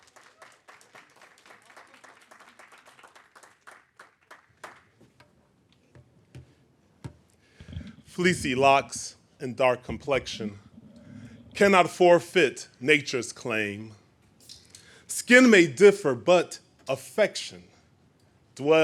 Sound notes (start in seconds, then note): 0.0 audience applaud